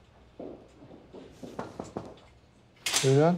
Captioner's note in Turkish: Kapı vuruluyor